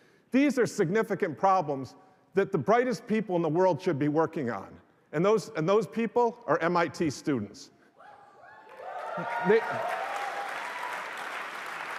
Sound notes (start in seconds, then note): 8.6 applause